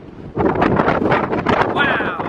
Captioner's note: wind blowing hard